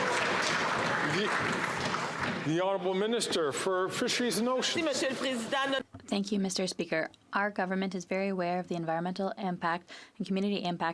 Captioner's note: some Applause